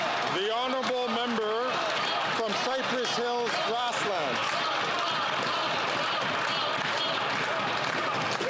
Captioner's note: some Applause